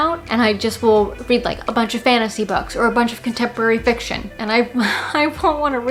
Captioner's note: laughs